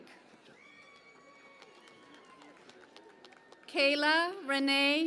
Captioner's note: cheering and Applause